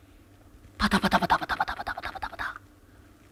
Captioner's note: pitter-pattering